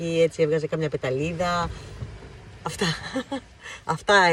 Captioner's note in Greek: γέλια